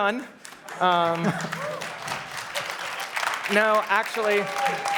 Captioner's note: applause